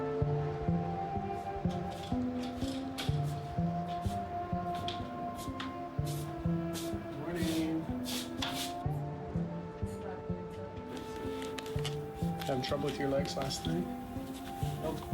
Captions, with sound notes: (wheel chair rolling) - Good morning. Had any trouble with your legs last night?